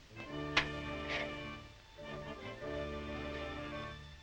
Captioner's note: container taps